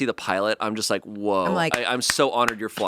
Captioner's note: clapping